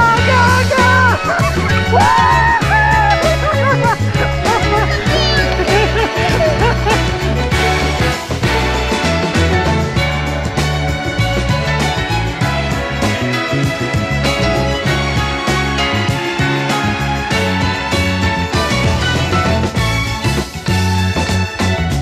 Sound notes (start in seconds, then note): 3.7 laughing; 6.8 upbeat music